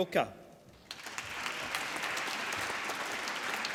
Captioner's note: applause